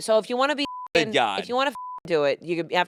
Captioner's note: beep